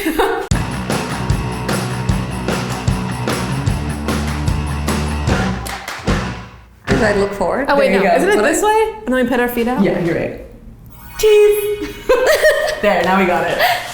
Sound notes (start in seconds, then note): 0.0 laughs; 0.5 bright music plays; 11.8 laugh